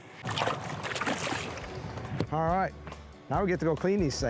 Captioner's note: water sloshing